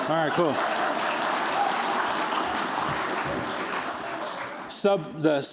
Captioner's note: applause